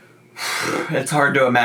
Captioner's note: sighing